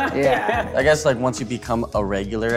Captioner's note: loud laughing